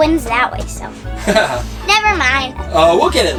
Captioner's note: announcer laughs